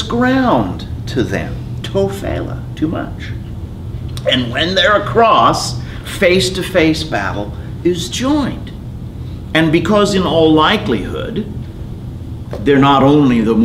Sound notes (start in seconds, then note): 2.7 speaking in foreign language